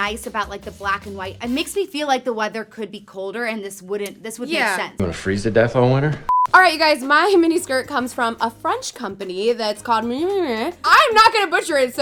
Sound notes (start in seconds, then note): 6.2 beep